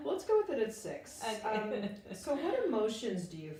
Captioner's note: laughing